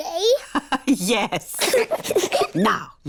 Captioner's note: both giggle; laughs